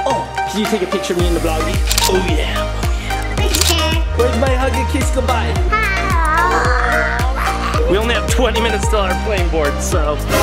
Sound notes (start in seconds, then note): 3.4 camera clicks; 5.7 groans; 5.9 dad groaning